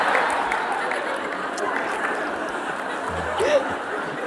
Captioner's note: laughter